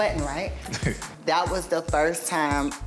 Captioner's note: laughs